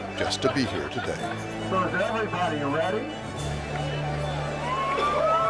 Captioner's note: voice on PA